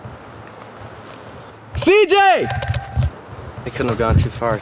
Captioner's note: screaming